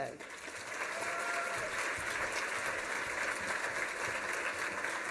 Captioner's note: applause